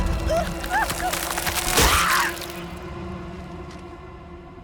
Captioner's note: tense music; skull cracks; screams